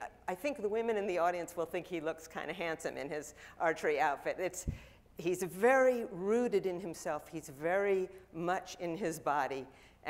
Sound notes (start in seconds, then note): none